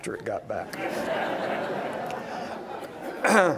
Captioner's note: laughter